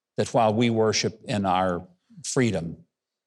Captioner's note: none